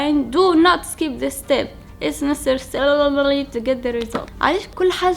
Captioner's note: mutters